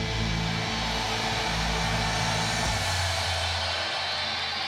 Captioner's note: crowd cheers; rock music plays